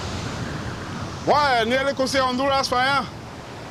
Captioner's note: Spanish spoken audio